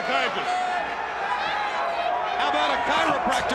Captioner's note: crowd chatter